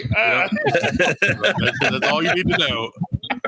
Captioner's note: laughing